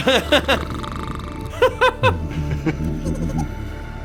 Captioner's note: snores; nervous chuckle